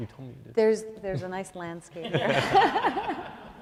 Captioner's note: laughing